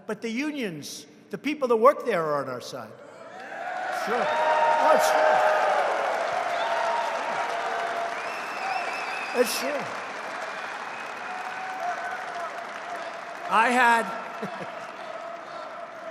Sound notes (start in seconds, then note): 5.2 applause